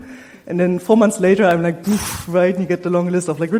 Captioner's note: blows air